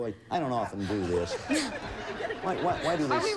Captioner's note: audience laughing